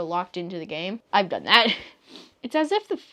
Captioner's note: laughs